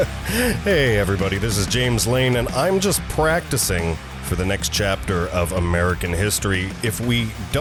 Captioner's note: sigh